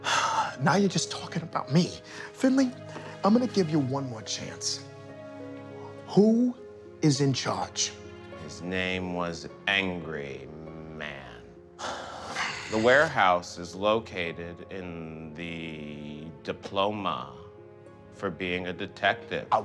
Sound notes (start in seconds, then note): 11.8 detective sighing